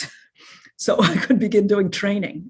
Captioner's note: chuckles